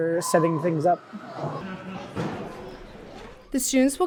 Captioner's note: people chattering